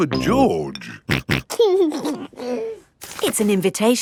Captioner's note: snorting and giggling